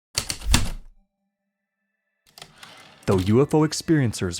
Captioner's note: heavy typewriter keystrokes, return slide